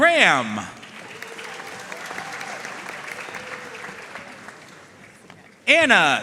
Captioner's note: audience cheering and applauding